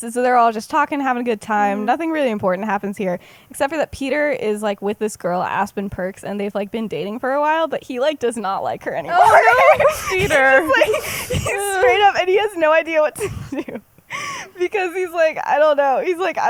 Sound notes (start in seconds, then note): 9.1 laughs